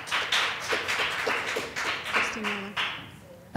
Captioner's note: applause